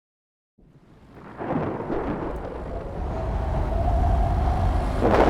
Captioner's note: thunder strikes